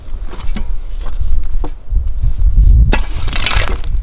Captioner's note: rake scraping